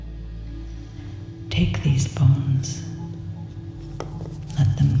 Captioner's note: whispering